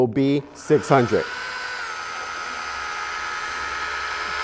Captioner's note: machine whirs